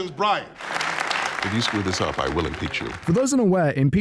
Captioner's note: clap clap clap